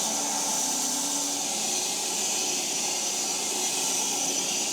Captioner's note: log saw whirring continues